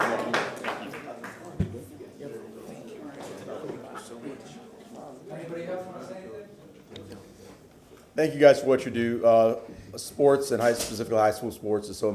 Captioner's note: applause